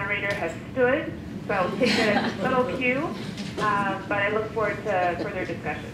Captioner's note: laughter